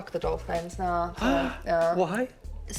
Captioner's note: sighs